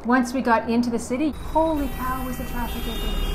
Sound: car Horns Honking

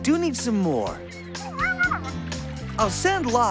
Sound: garbled Voice of Caller

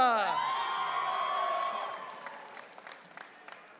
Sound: audience cheering

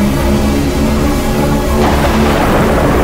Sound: whirring increases

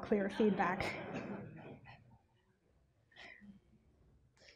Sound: chuckles

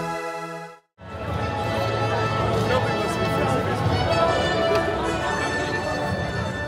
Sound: upbeat music; people chattering

